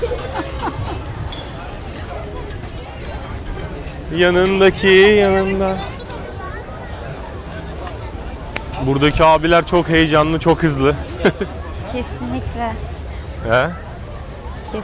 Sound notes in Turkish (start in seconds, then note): 0.0 kahkaha